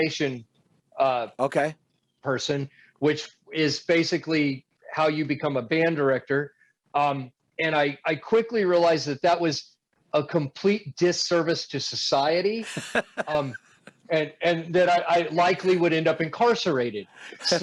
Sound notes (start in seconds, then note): 12.6 chuckles